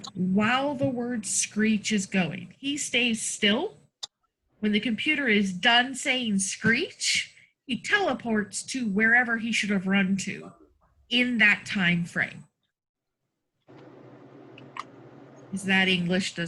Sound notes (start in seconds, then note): none